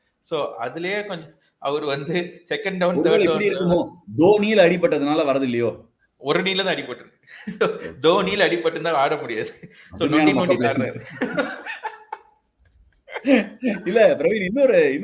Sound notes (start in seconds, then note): 12.9 laughs